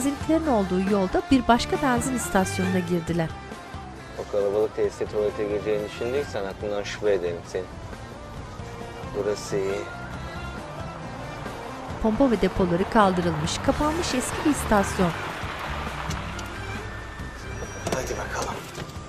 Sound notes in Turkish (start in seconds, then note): 10.4 Araba sesi